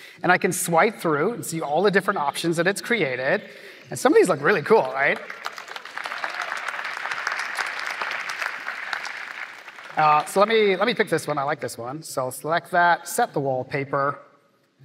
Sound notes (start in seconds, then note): 5.9 applause